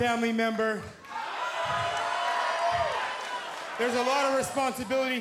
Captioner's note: crowd cheering